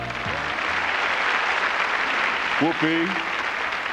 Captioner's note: applause